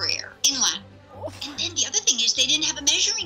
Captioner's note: gasps